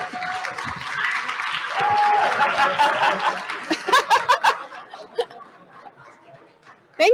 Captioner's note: applause and laughter